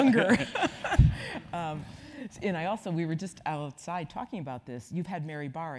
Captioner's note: laugh